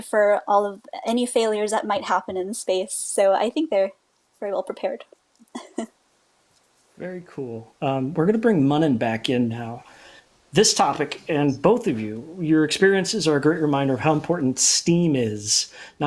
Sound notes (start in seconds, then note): 5.5 giggles